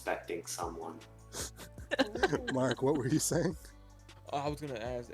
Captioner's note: laughs